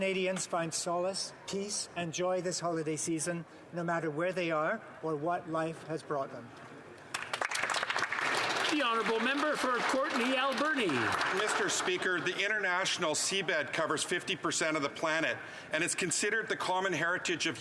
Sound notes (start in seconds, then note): 10.4 some Applause